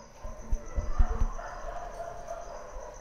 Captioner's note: Dogs barking